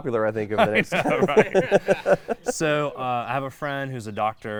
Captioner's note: laughing